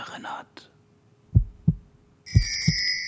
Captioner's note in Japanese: ドキドキ